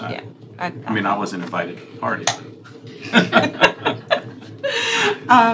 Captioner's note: laughter